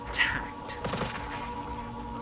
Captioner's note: sound of gunshots and camera clicks